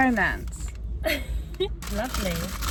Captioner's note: laughing